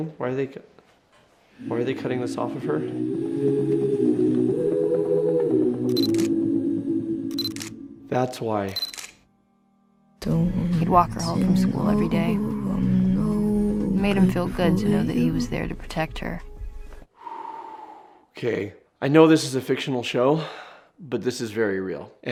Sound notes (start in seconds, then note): 4.0 melancholic music; 6.3 camera clicking; 17.2 sighing